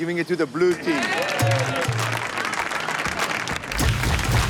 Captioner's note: blue team cheers